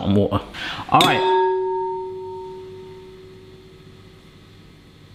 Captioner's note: bowls ringing